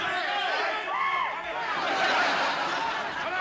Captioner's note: laughter